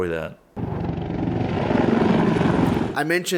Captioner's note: helicopter engine and rotors